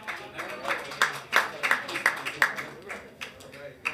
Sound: hands clapping

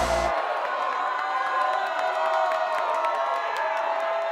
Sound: cheering fades away

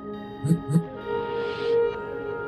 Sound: quick phone vibration

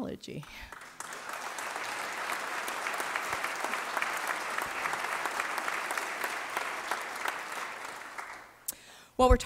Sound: applause

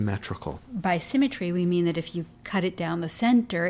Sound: voiceover

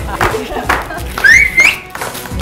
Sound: laughter; whistle

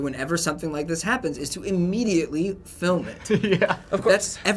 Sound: laughing

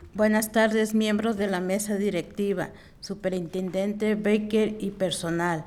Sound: speaking in foreign language

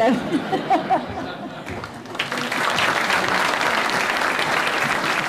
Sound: laughter, applause

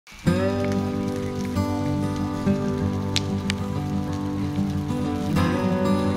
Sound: fire crackling; gentle guitar music

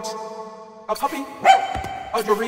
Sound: barks

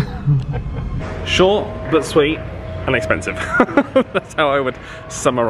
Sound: laughs

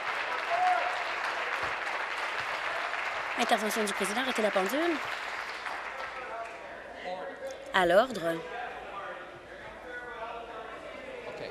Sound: applause

